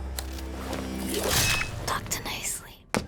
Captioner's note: ax slashing